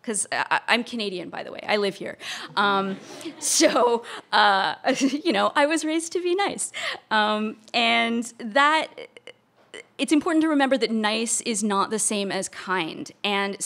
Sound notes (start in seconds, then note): 2.5 audience laughter